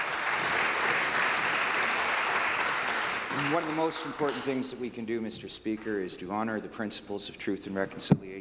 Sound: applause

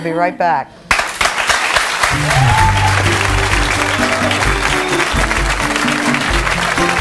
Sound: audience applauding; bright music

